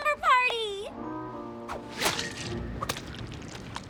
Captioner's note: glop!; squish!